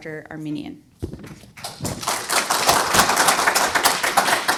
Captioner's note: audience applause